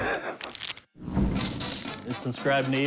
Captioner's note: laughs; poker chips shuffling